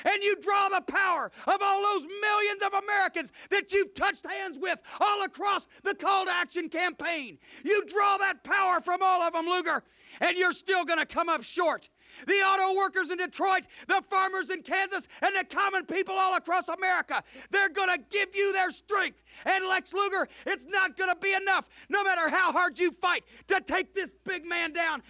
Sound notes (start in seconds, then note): none